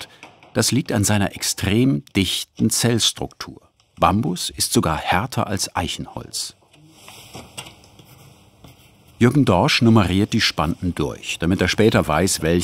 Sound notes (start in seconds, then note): none